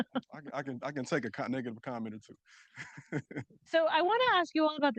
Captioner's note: chuckling